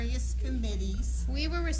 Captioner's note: off camera groans